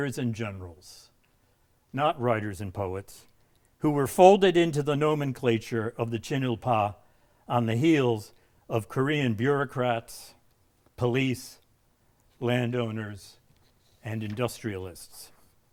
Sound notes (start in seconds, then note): 6.3 speaking in a foreign language